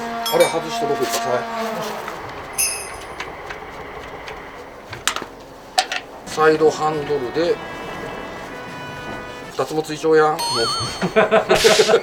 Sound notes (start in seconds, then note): 10.7 laughs